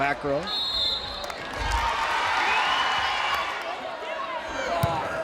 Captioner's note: crowd cheering